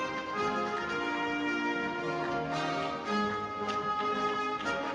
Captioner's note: audience applauding